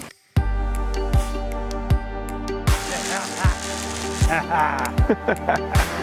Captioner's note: laughing; upbeat music